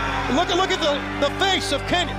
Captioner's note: crowd cheering